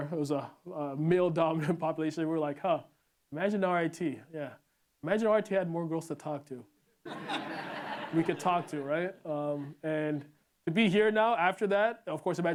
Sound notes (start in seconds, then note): 7.0 laughter